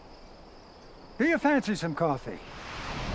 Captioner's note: birds chirping